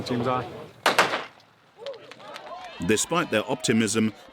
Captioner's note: gun firing; audience cheering